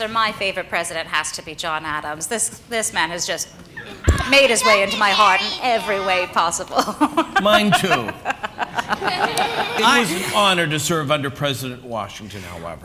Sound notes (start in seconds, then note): 6.6 laughs; 8.3 laughter